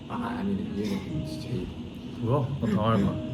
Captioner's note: hey... hahahahaha